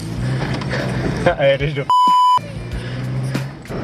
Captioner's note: beep